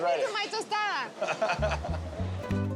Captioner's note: laughs